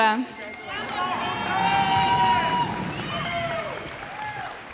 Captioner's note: cheers and applause